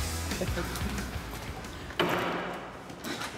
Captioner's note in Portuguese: risos